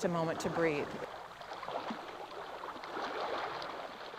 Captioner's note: waves lapping